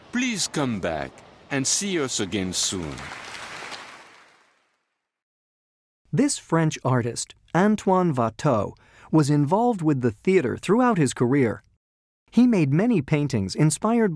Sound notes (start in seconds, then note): 3.4 applause